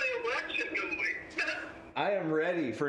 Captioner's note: laughs